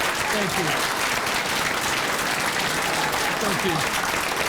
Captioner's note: crowd applauding continues